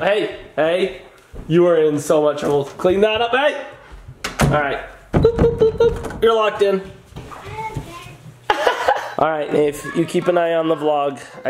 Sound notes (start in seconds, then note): 8.5 laughs